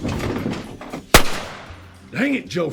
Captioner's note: gun firing